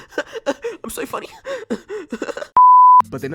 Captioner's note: cringe laughter; more cringe laughter